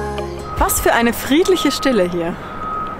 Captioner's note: loud beeping